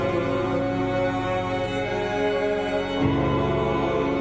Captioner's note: all chanting